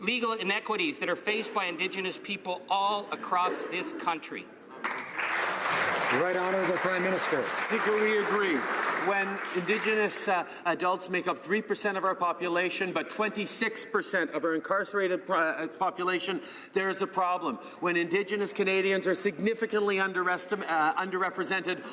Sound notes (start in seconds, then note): 9.4 some Applause